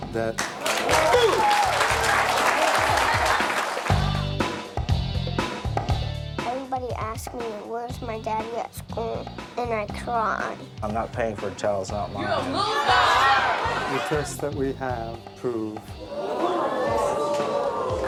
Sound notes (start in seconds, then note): 0.3 audience applauds; 3.8 upbeat bass music; 12.1 audience shouts; 16.0 audience murmurs; 17.9 upbeat music